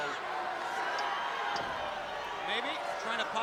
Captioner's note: crowd cheering